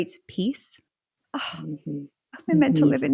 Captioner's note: sighing